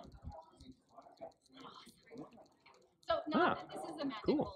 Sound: whispering

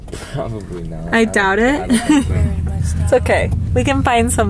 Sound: laughs

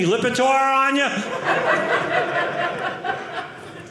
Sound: audience laughing

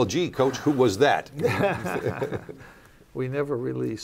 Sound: laughter

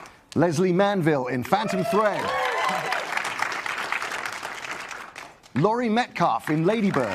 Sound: applause

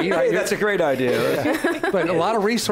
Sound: laughing

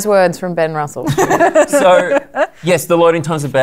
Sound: laughter

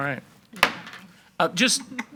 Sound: gavel bangs

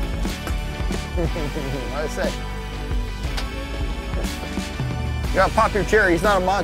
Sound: chuckling

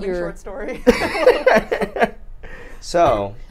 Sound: laughs

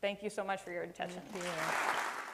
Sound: applause

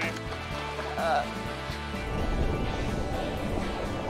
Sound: laughs

